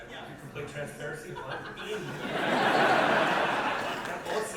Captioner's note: audience laughter